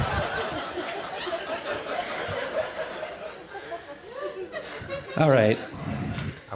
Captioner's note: laughter fades in